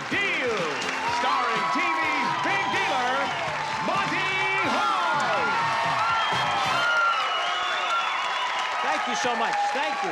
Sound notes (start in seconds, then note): 5.6 applause